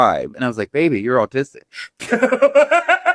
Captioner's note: laughs